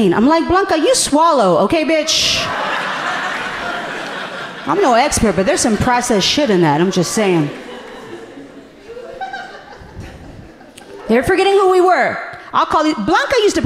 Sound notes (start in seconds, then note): 2.6 audience laughing amusingly; 8.5 audience laughing gently